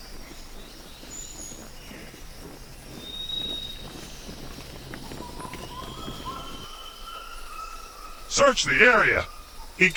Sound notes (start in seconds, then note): 0.1 steps thudding